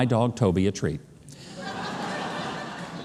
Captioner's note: laughing